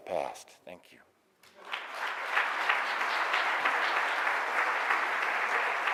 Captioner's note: audience applauding